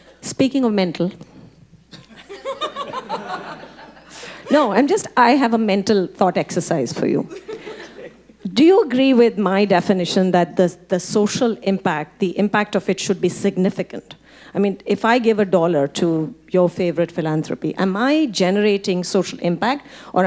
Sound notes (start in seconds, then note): 2.0 audience laughing; 7.3 audience laughing